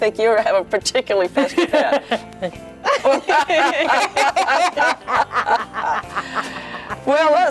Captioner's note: laughing